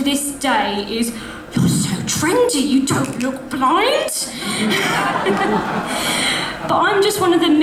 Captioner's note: audience laughs